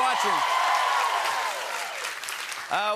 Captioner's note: cheers and applause